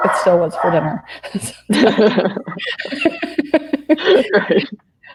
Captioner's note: laughing